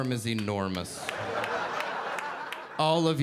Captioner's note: audience laughing